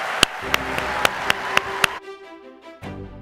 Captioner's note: applause; lively orchestra music